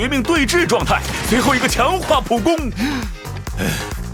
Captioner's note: sigh